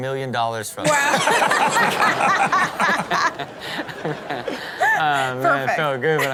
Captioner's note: co-hosts laughing